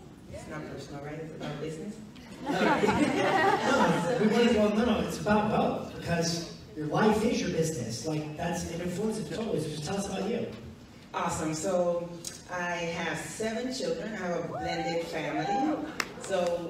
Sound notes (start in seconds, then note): 2.4 audience laughs